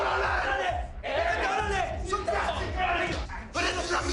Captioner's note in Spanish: Gritos